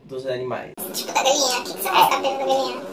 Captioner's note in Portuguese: voz modificada para tom engraçado